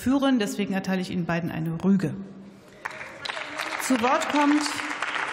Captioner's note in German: Beifall